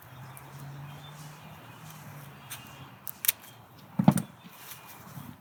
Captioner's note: scissors snip